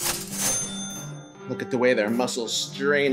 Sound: gentle instrumental music; bell chiming

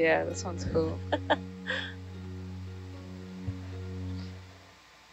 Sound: scientist chuckles

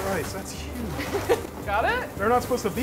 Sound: laughs

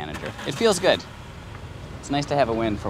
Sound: car engine starting

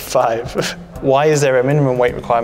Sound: Alex laughing

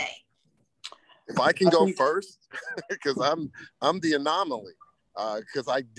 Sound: laughs

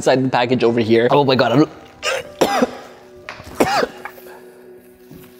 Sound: coughs and gags

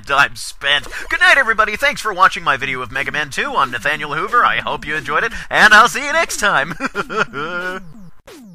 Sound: awkward laugh

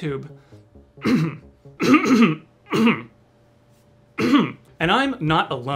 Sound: aggressively clearing throat

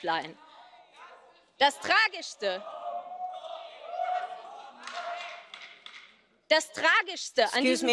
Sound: shouting

